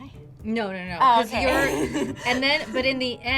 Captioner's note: laughs